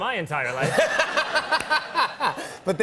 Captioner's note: laughter